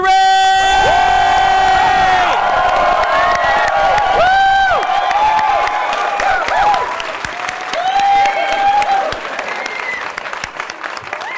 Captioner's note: cheering